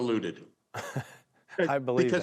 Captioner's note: chuckling